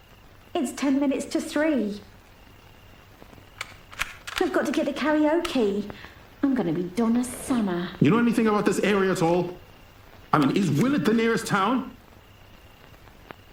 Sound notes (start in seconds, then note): 3.6 gun cranking